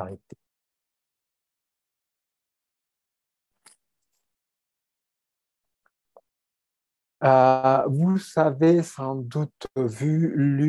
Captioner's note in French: silence